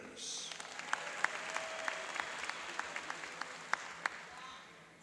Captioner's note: cheering and applauding